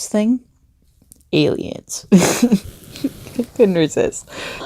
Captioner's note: giggling